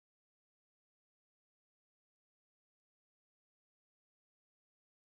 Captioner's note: none